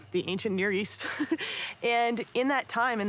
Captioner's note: laughs